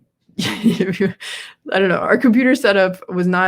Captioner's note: laughs